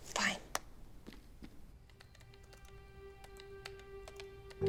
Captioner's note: typing